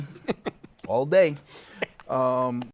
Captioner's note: laughs